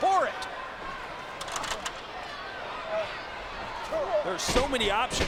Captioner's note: audience chattering